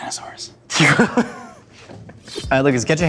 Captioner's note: laughs